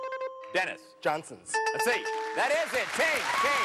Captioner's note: dings